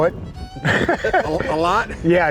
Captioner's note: laughs